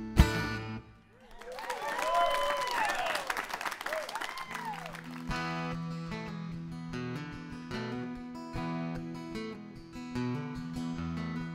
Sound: applause

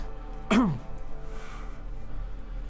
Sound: coughs, Clears Throat

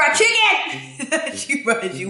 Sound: laughs

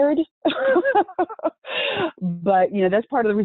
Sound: laughing

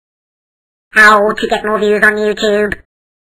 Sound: robotic Voice Over

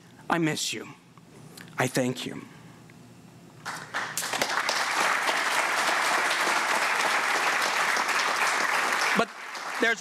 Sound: applause

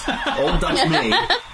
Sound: laughing

